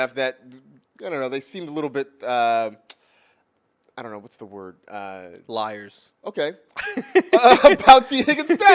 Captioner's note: laughs